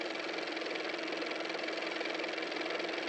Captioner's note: car motor